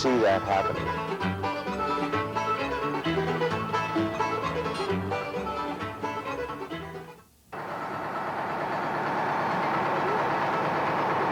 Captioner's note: podunk music; music and engines idling